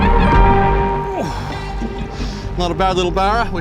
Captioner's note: grunts